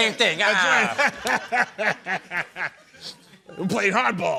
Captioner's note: laughter